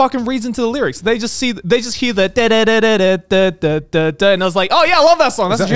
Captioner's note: mimicking the song beat